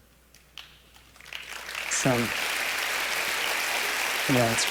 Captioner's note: applause